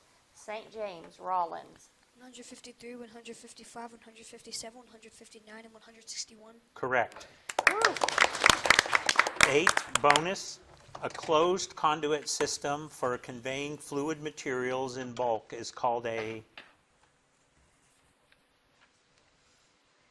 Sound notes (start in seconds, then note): 7.4 audience applauding